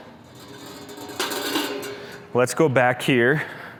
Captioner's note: metal clanging